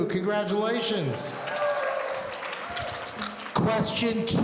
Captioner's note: audience cheering